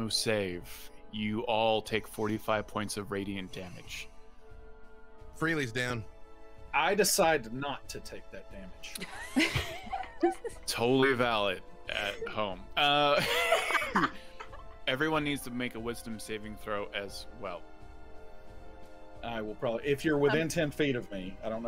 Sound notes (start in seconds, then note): 12.8 laughs